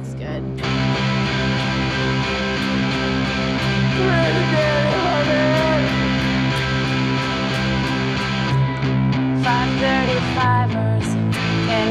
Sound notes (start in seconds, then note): 2.5 upbeat rock music; 4.2 Donnie yells